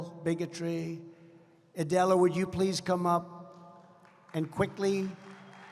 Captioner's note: applause